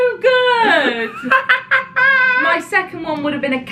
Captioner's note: laughing